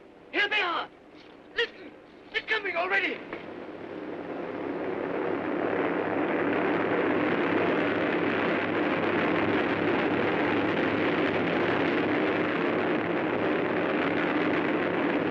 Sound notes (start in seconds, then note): 3.3 aircraft rumbling